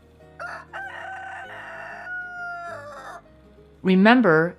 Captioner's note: rooster crows